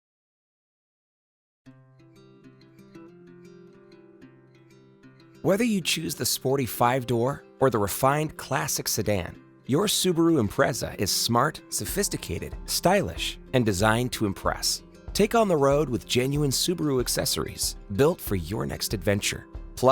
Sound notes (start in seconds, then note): 1.8 soft music; 5.5 voiceover